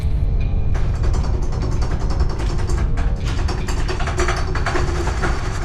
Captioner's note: objects rattling